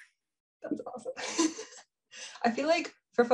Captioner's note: chuckles